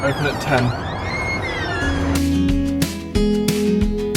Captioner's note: door squeaking; upbeat music